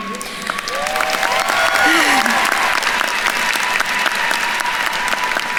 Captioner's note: attendees cheering and applauding